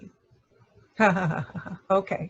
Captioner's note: laugh